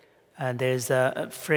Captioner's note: foreign Language